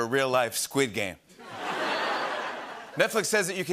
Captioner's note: laughter